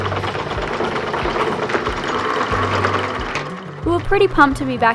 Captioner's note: chugging boat engine